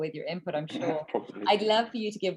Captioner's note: chuckles